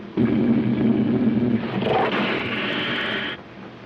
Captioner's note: lions roaring